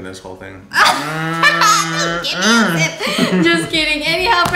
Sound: laughing

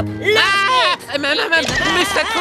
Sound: <i> shrieks</i>

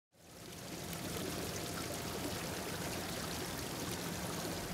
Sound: sound of water flowing in fountain

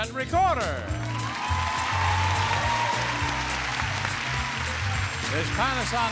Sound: mellow music; audience applauding

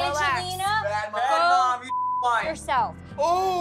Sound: beep

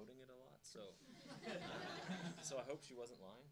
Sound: audience laughing

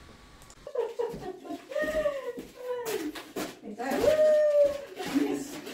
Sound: laughing

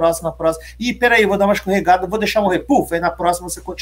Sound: puff

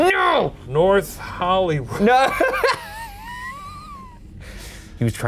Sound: laughing

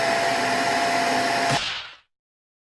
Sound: smack!

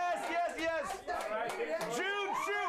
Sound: audience cheers

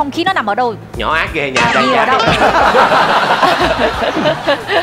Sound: laughing

